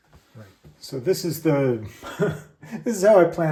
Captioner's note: laughter